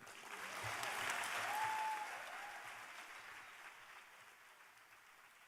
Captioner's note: applause